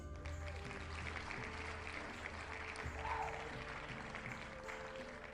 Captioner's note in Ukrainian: оплески